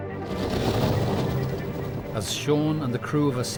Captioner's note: intense music; boat droning; waves crashing